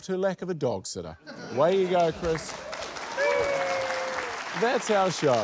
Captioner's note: cheering